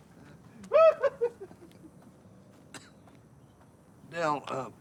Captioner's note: laughing; Kane laughing